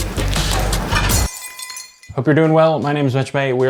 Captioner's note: utensils clattering